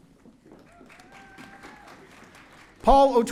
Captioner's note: audience cheering